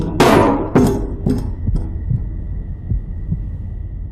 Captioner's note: knocker banging